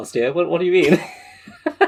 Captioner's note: laughs